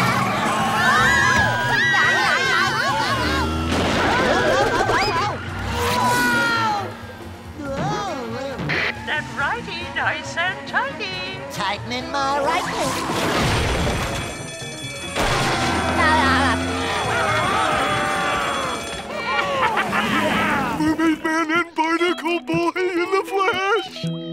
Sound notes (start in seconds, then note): 0.6 screaming; 13.2 ringing; 15.9 laughing; 16.8 screaming; 19.0 laughing